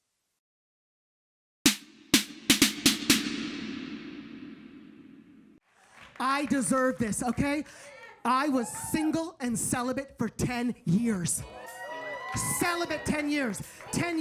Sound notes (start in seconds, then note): 11.6 audience cheering